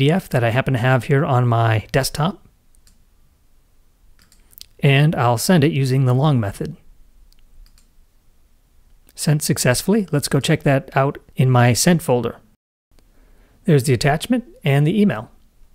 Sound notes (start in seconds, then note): 4.2 mouse clicking; 7.6 mouse clicks